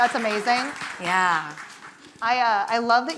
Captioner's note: audience applauding